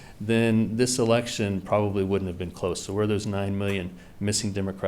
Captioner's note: none